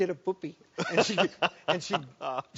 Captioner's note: laughs